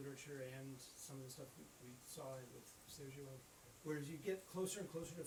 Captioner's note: faintly speaks